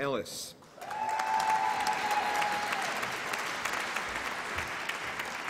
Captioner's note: applause and cheering